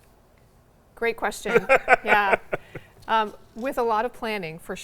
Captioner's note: laughs